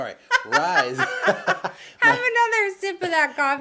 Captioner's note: laughing